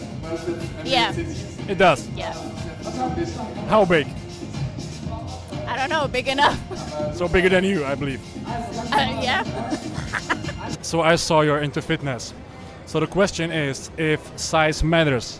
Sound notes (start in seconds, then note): 9.5 evil laugh